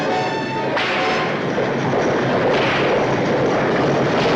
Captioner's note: driver whips horses